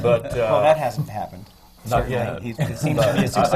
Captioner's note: laughter